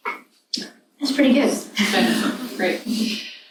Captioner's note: laughs